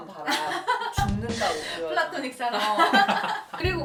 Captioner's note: laugh